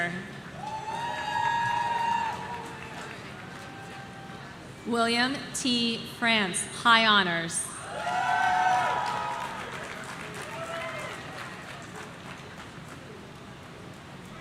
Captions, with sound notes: (audience cheering) William T France, High Honors.